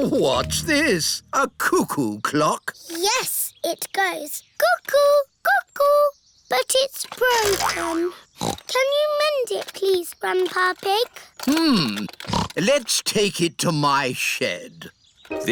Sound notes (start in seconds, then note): 8.4 snorts